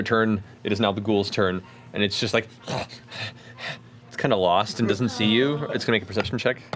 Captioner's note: panting